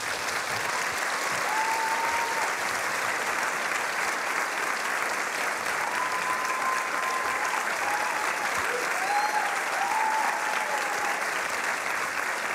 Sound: applause

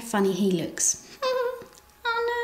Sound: giggles

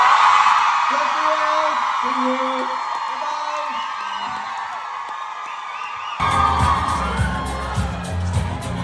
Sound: ปรบมือ

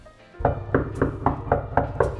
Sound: knocking on Door

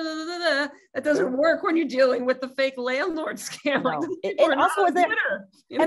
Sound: laugh

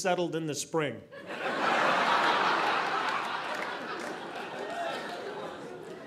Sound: audience laughing

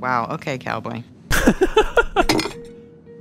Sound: laughs

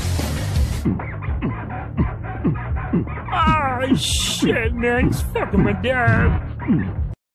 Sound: F*cking noises

